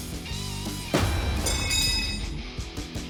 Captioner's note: clanking